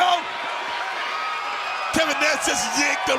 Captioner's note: crowd chatter